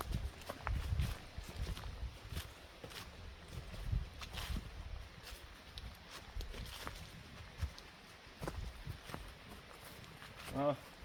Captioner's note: heartbeats; walking sound